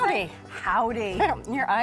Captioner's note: laughs